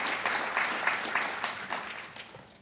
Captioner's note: audience cheers and applauds